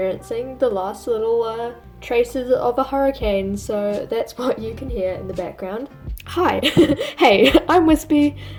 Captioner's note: laughs